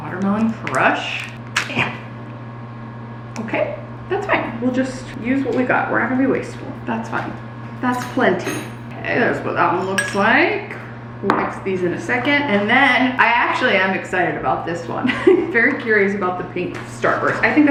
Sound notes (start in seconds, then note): 15.0 laughing